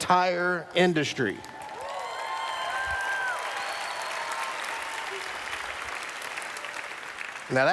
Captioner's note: cheers